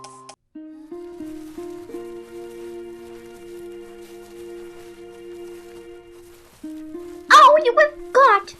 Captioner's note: footsteps